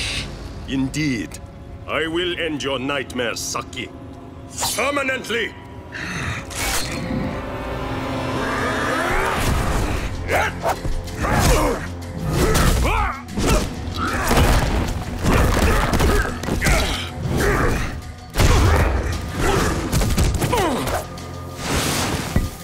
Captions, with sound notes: Indeed, I will end your nightmares, Saki. Permanently. [growling] [grunting] [grunting] [grunting]